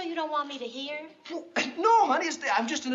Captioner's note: gasps